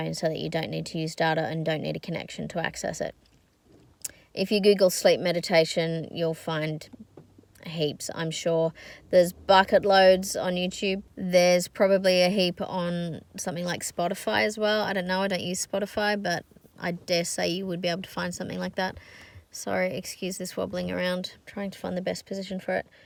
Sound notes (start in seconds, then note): none